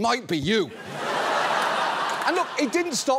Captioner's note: laughter